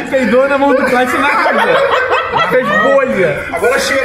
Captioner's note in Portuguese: risadas